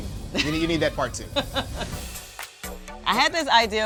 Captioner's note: laughing